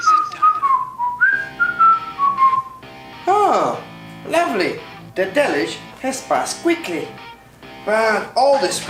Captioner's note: whistling